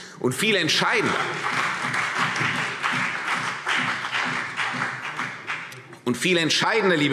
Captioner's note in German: Beifall CDU und BÜNDNIS 90/DIE GRÜNEN